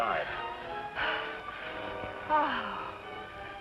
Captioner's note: sighs